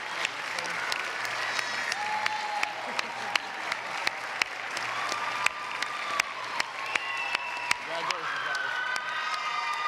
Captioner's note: applause